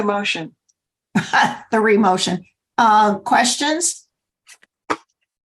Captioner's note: laughter